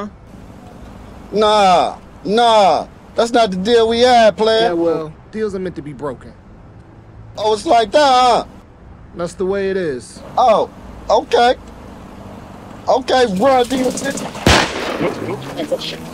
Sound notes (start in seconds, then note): 13.7 guns firing